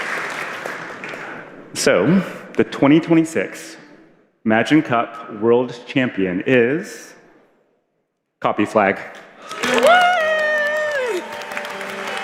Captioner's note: applause